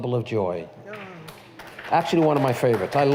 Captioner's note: applause